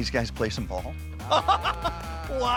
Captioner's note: laughs